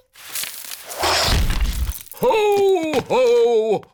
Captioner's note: thuds